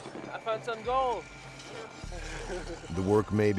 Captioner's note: voiceover